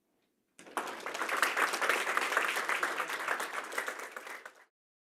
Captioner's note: applause